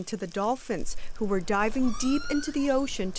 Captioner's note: dolphin cry